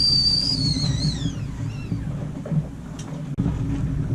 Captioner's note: teapot whistling